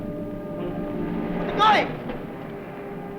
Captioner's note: yells